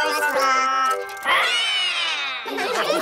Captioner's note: all roar; all laughing